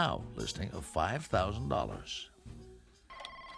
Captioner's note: telephone rings